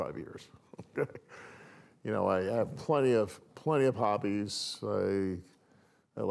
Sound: laughs

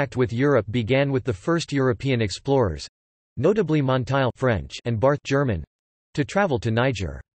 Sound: German

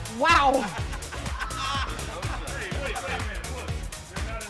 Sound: laugh

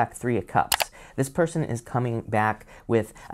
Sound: button clicking

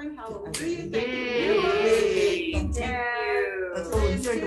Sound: group cheers

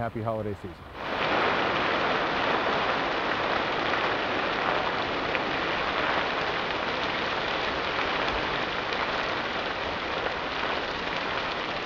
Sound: roaring fire

